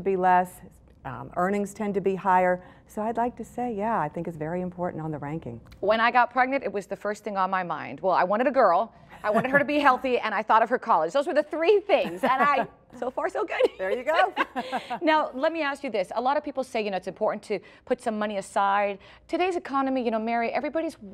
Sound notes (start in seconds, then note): 13.7 laughs